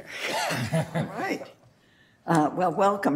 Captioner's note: laughter